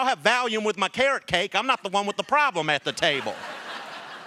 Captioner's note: laughter